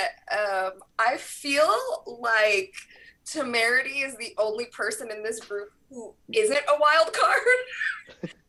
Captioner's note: laughs